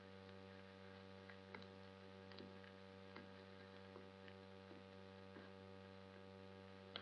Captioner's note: footsteps